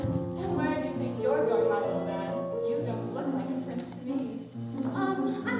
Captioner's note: none